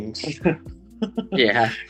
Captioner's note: laughs